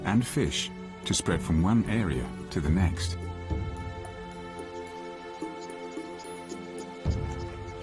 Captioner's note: dramatic music; birds chirping